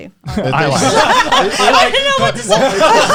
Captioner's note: all laughing